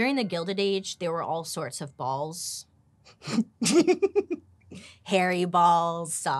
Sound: laughing

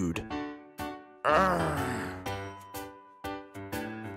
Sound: Nabal growls; jaunty music

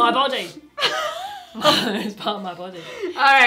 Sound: laughing

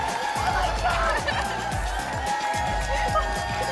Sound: applause and cheering cont

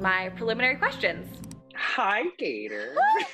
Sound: mouse clicking

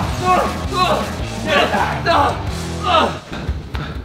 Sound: indistinct grunting

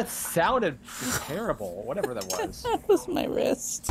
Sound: laughs

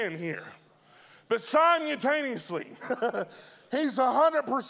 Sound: laughing

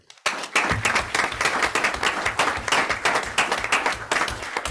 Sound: group applauds

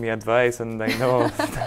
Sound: laughing

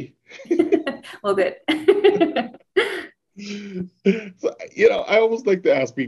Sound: laughs

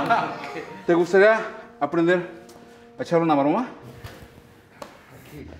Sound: laughs; speaking foreign language

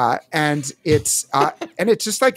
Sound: laughs

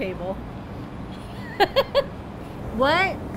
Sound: laughing

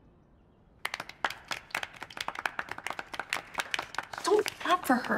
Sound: all clapping

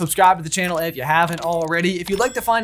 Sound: bell dings

